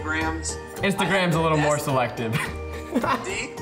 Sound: laughs

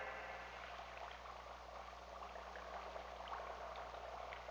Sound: liquid bubbling

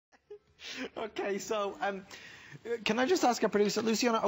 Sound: laughter

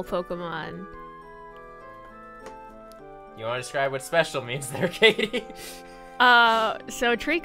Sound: laughs

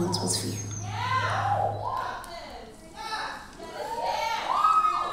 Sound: audience cheering

